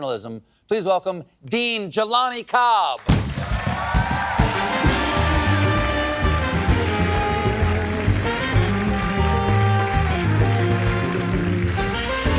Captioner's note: cheers and applause